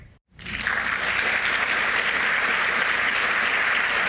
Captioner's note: audience applauding